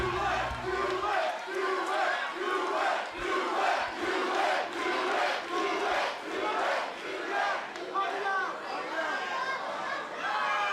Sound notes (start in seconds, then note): 2.7 crowd cheering; 4.0 crowd chatter; 5.8 crowd cheering